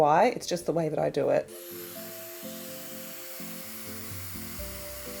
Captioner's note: hairdryer whirring